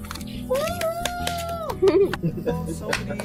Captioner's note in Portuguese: Aplausos; Risos